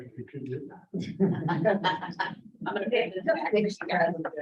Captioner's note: members chuckling